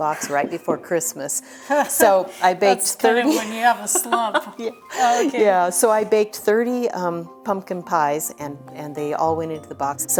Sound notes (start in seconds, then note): 1.5 laughs